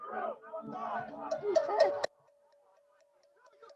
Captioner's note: chanting